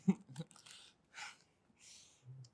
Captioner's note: giggling